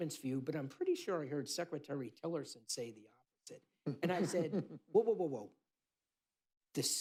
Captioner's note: laughter